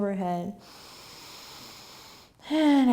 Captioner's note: inhaling